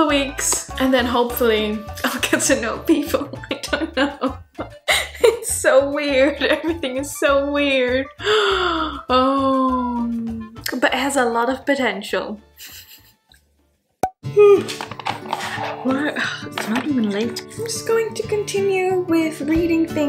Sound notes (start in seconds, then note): 3.4 laughing; 8.2 sighing; 14.4 screen popping; 14.9 yawning